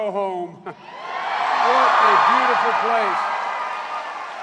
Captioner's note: cheers and applause